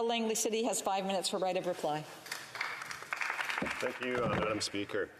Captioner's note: speaking French